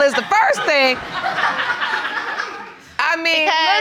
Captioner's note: audience laughing